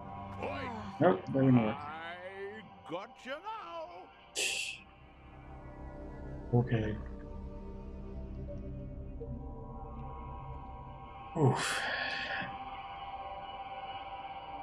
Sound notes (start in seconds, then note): 4.3 scoffs; 11.2 sighing